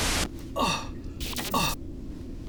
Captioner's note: electricity crackles, zaps